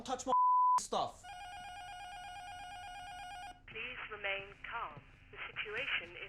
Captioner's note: intercom buzzer rings; intercom